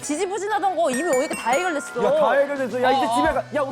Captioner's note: sound effect of being number one in saju